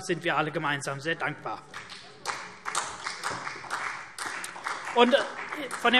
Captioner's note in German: Beifall CDU